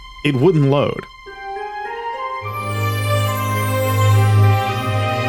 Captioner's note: none